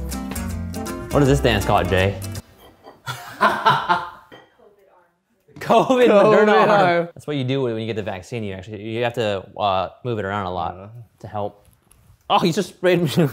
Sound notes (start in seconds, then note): 3.0 laughing in background; 5.7 laughing